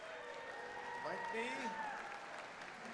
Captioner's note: audience cheers and applauds